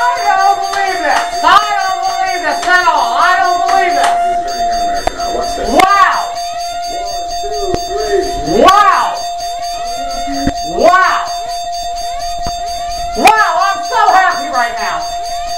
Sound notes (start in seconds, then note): 1.1 claps; 1.1 stops clapping; 2.1 dings, clangs, and whoops; 8.5 dings, clangs, and whoops